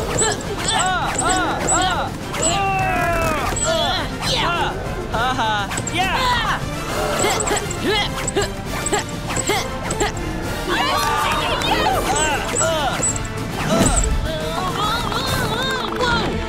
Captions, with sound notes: [grunting] Ha ha! Yah! [screaming] [grunting] [cheering] [grunting] Whoa!